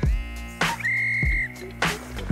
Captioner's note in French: sifflet